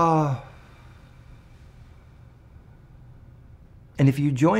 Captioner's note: exhaling